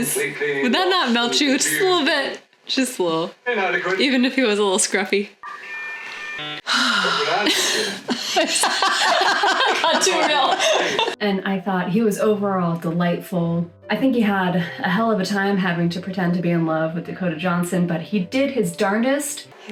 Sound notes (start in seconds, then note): 5.4 dial-up noise; 6.6 wistful sigh followed by laughter